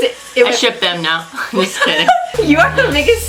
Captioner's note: laughs; while laughing